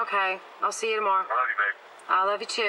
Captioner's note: on phone